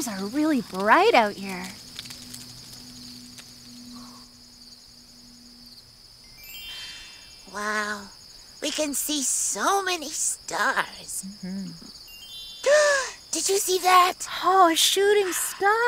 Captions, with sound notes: are really bright out here. (playful chiming) - Wow, we can see so many stars. (gasps) Did you see that? - Oh, a shooting star!